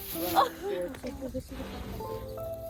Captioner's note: laughs